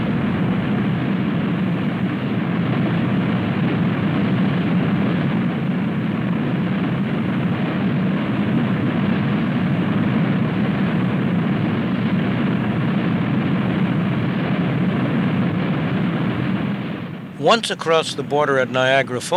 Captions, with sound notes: (roaring waterfall) Once across the border at Niagara Falls,